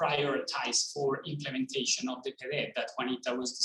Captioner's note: speaking in foreign language